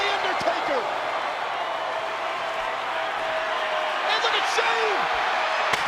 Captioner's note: crowd cheering